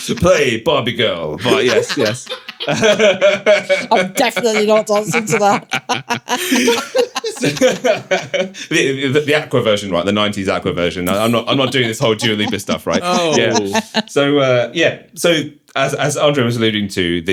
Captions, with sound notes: Play Barbie Girl, right, yes, yes. (all laughing) I'm definitely not dancing to that. (all laughing) The Aqua version, right, the 90s Aqua version. I'm not doing this whole Dua Lipa stuff, right? Oh. Yeah. So yeah, so as Andre was alluding to,